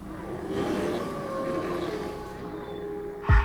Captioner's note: howling